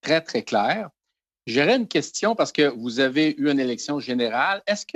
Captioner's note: speaking in French